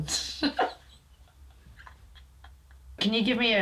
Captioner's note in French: rigole